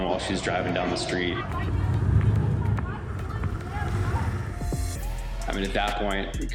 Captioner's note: shouting